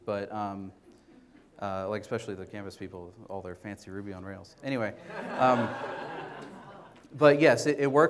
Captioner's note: audience laughter